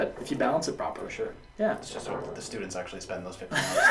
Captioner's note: laughs